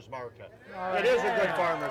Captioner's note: cheering